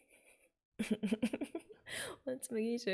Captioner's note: laughs